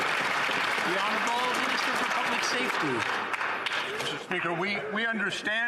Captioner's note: some Applause